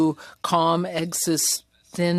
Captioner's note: speaking French